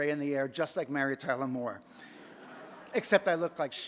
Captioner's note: audience laughs